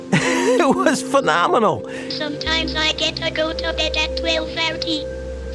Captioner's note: laughs